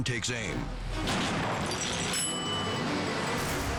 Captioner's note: gunshot fires; dramatic music